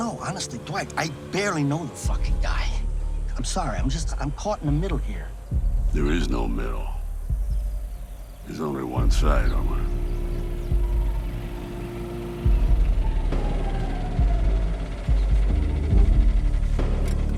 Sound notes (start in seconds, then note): 10.2 deep tense music; 12.0 vehicle rumbling